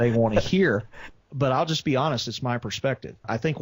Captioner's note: laughs